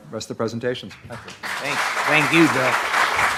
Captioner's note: audience applauding